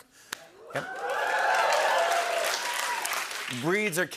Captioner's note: cheering and applause